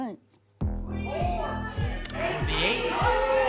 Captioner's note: audience shouting numbers